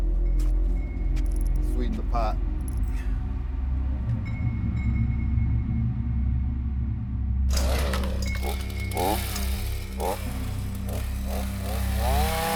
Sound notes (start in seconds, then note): 3.6 ominous music; 7.5 chainsaw revs; 9.8 ominous music